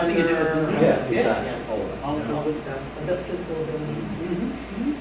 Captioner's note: chattering